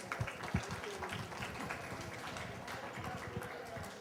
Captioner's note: applause